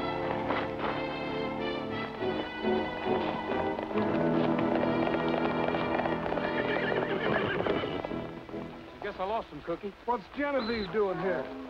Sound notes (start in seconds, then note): 6.7 horse whinnies